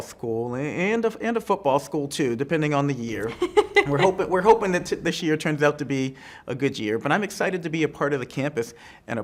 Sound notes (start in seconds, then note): 3.2 laughs